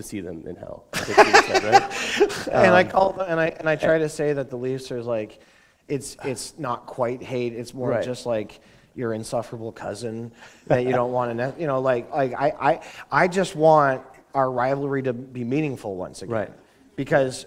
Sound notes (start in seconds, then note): 0.9 laughter